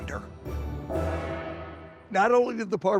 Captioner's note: gong chiming